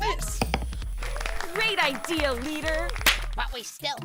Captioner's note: applause